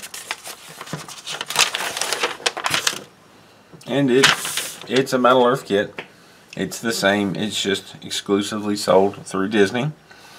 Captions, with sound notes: [paper rustling] And it... it's a Metal Earth kit. It's the same, it's just exclusively sold through Disney.